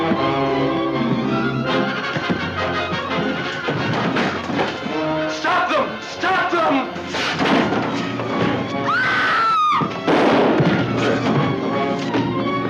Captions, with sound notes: - Stop them, stop t! (screaming) (explosive booming)